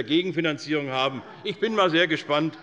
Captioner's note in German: Lachen bei der SPD